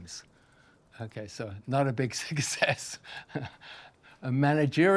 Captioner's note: laughs